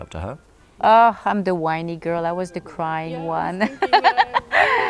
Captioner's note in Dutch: lacht